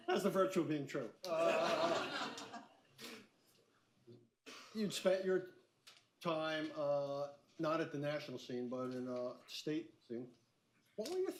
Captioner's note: laughter